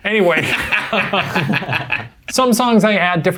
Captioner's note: all laugh